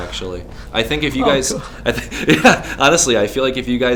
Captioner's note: laughs